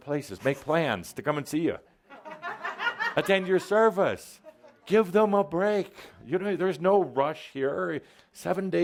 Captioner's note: some laughter